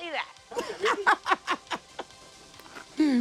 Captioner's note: laughs